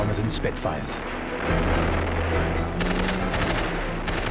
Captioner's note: gunfire